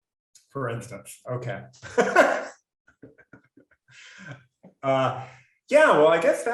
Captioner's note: laughs